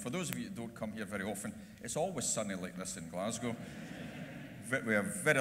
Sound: laughter

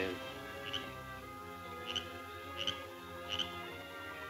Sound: frog croaking

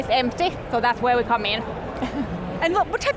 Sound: laughs

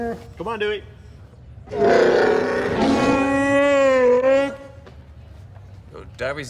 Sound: wookie speak; wookie roar

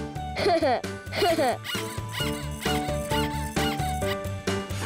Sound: laughs; squeaking

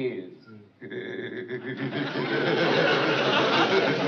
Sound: laughs

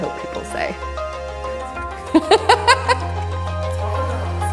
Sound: g i g g l e s

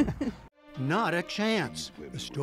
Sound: laughter

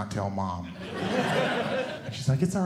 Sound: audience Laughing

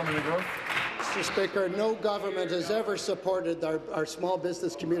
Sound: applause

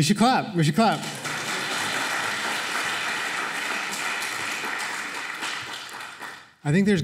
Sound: applause

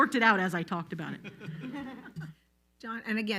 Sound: all laughs loudly

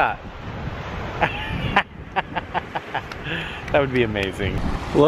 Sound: laughs

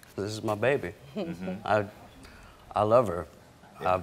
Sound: chuckling

